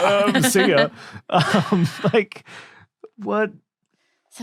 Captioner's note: others laughing; chuckles